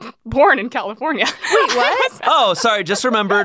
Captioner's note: laughing